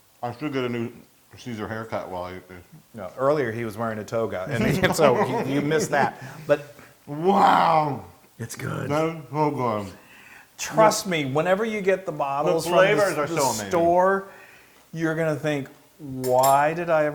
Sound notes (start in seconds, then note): 4.5 laugh